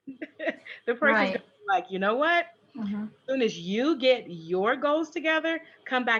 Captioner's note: laughs